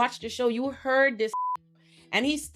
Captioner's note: beep